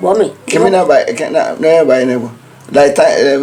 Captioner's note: stammers